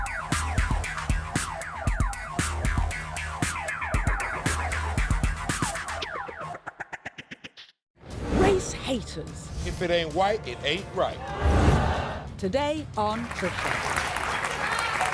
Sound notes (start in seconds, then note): 11.2 crowd boos; 14.9 crowd applauds